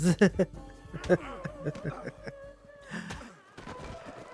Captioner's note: sad laughs